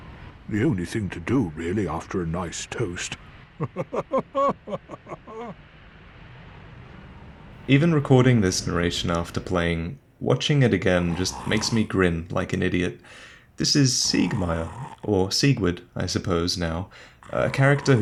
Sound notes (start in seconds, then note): 3.4 laughing